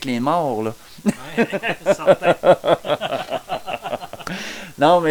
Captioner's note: laugh